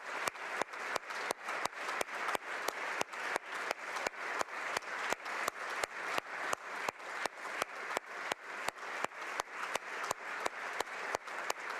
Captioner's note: applause